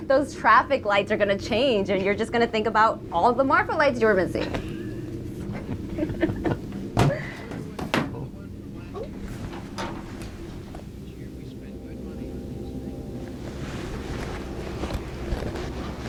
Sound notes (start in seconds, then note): 4.0 Allie and Erik laughing; 13.3 eerie music